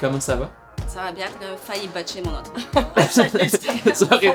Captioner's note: laughter